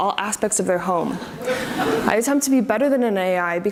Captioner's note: audience laughs